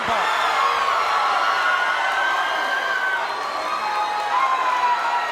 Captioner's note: crowd cheering